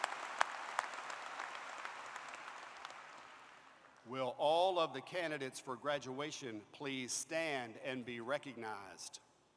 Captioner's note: applause